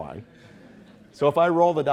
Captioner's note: audience chuckling